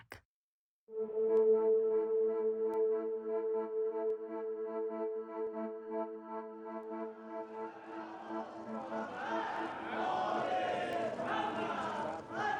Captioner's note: soundbite of archived recording